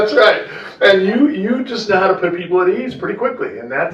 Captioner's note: laughter